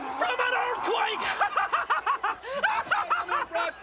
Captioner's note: Jimmy laughs